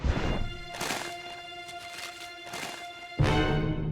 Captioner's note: bag of chips shakes